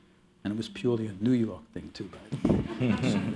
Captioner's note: laughter